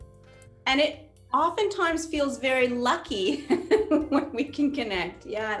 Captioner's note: laughs